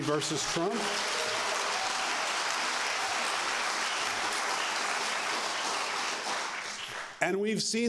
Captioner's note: applause